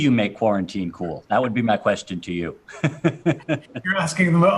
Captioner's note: laughs